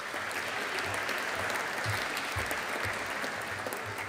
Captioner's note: audience applauding